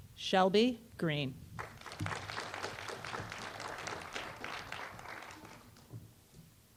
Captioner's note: applause